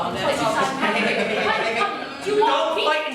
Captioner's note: inmate bickering